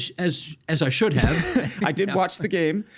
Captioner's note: chuckling